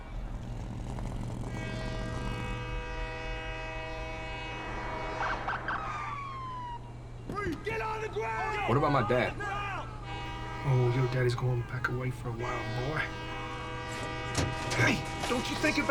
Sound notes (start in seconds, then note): 0.0 train horn, truck engine whirring; 5.1 train horn, police sirens; 14.2 truck door opens